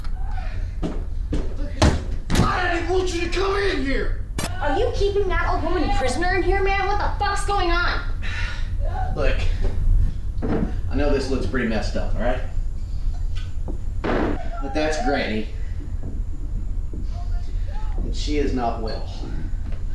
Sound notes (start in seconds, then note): 0.2 stomps down hallway, kicks door; 14.1 slams bottle on counter